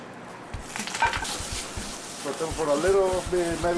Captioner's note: sizzling